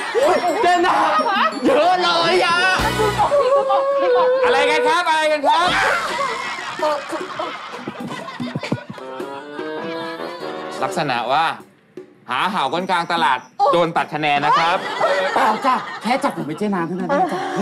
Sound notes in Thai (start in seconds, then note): 5.6 เสียงร้อง